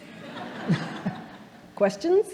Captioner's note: audience laughing